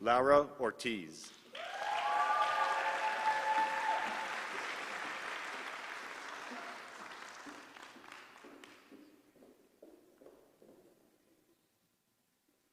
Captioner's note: applause